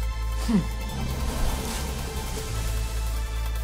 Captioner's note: inhales deeply; calm wind gusting